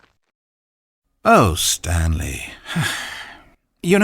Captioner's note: sigh